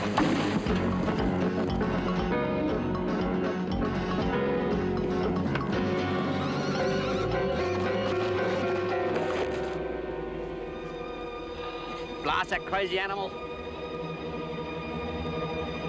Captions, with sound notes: (frenetic instrumental music) (terrified whinny) - Blasted, crazy animal!